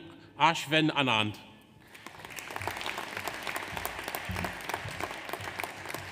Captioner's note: audience applauds